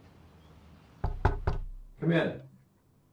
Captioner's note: knocking